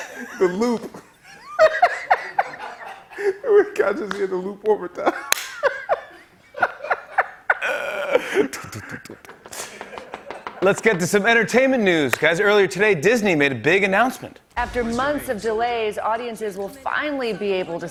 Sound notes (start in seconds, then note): 0.0 laughter; 5.0 laughter; 8.2 Knocking